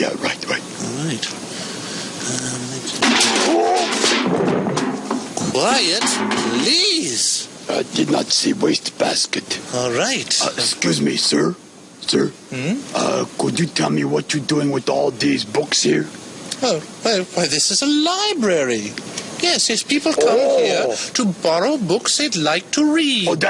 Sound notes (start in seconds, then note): 3.0 metal can falling